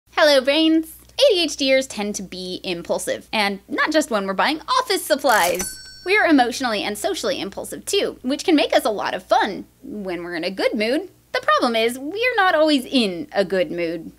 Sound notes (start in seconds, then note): 5.3 ding!